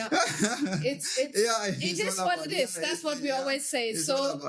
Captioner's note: laughing